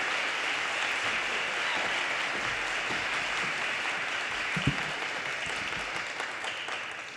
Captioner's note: audience cheers and applause